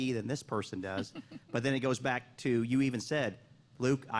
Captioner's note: laughter